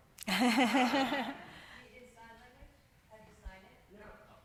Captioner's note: audience laughing